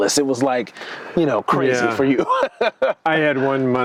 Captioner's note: laughing